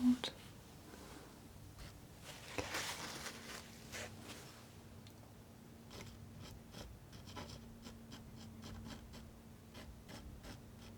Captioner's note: scratching